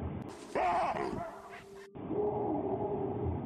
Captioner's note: distant barking; loud barking; distant barking